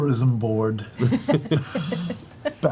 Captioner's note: laughter